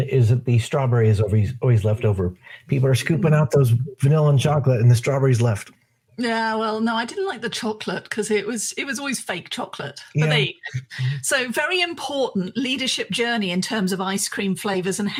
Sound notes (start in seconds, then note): 10.1 murmurs